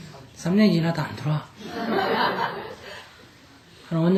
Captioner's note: audience Laughter